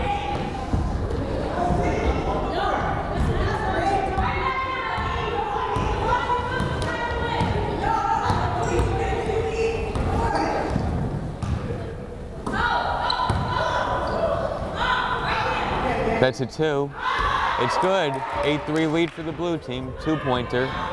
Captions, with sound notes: (crowd chattering) (players shouting) That's a two, it's good. 8-3 lead for the Blue team, two pointer.